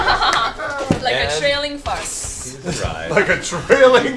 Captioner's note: laughs; laughing